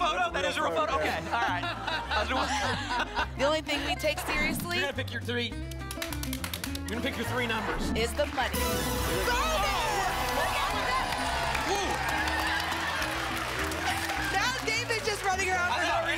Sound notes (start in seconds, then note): 1.0 laughter; 5.6 hand clapper sounds; 10.8 applause and cheering